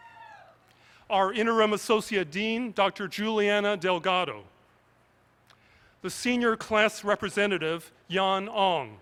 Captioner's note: cheers